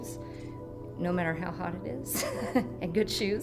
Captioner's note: laughing